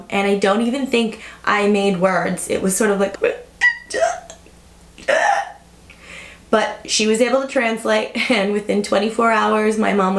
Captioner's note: crying